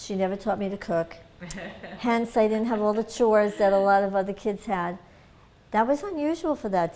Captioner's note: laughter